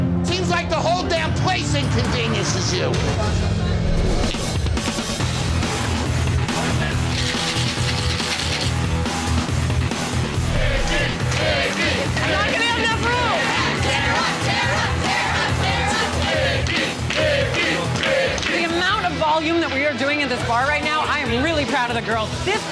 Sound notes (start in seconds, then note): 10.7 customers chanting; 14.1 customers chanting